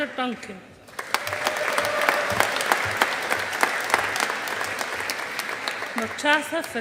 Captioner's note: audience applauding